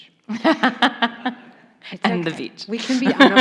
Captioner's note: laughs